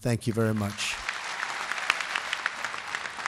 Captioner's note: applause